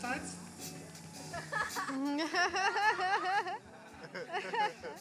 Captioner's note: laughing